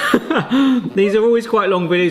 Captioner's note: both laughing